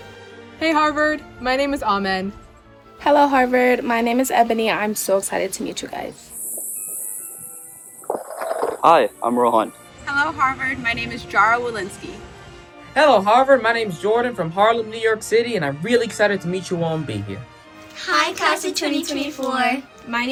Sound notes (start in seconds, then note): 5.5 hissing; 7.9 skateboard rumbling